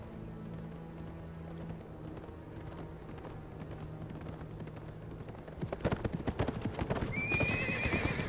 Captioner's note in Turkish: At nalı sesi; At kişneme sesi